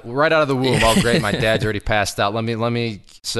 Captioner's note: chuckles